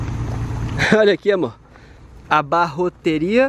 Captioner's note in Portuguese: em espanhol